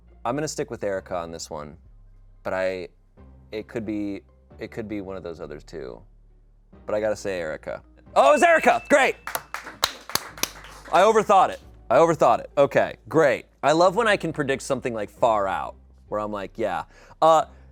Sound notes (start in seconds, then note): 8.3 bell dings; 9.8 people applaud